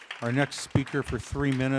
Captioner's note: applause